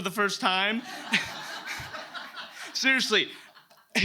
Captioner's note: audience laughs